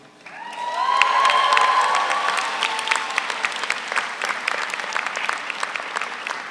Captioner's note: audience applauds; audience cheers